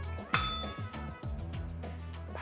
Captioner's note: bell rings